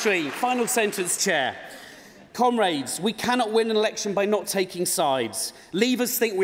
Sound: cheering

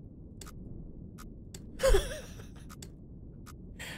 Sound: laughs

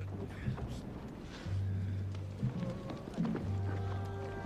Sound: groaning

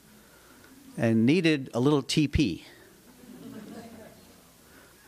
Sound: laughter

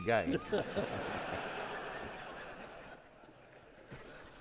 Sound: audience laughing

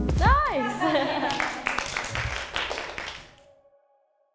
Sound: the group applaud

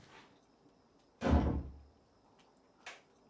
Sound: door slammed shut

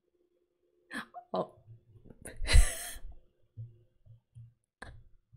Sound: laughs

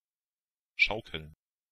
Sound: fast Pronunciation

